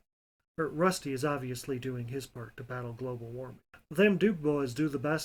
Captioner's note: in a vague, southern, Good ol' Boys accent